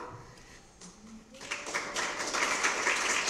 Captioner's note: applause